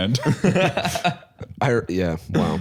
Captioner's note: laughing